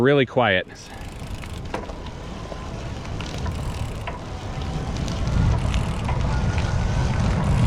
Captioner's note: wheels whizzing; motor roaring softly